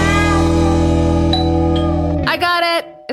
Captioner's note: doorbell rings